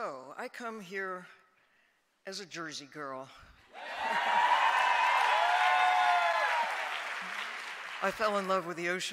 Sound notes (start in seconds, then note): 6.0 applause